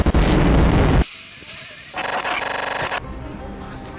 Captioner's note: static and muffled horse neigh